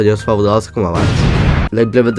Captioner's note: explodes epically